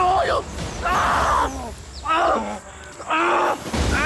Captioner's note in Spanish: Gritos; Disparos